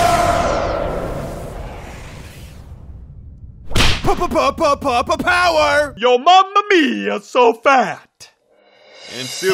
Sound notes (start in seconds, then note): 3.8 stutters